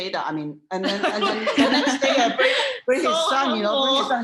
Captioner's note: laughter